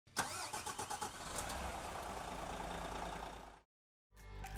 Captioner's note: engine starting